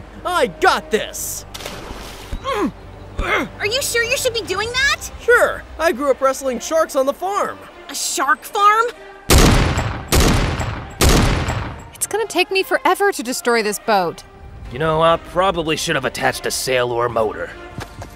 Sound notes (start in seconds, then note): 1.4 water splashing; 2.2 groaning and punching; 9.3 shot gun firing